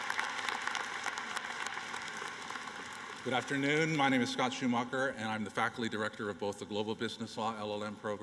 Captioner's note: applause